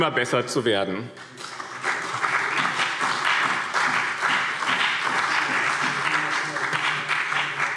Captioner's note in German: Beifall BÜNDNIS 90/DIE GRÜNEN und CDU